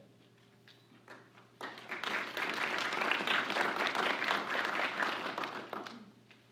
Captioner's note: applause